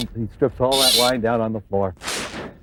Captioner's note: drill whirring